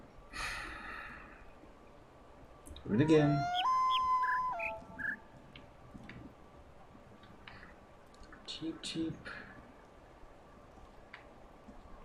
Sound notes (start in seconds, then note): 0.3 sighs; 2.8 bird chirps five notes; 2.9 coyote howls ˩˧˥˥ ˧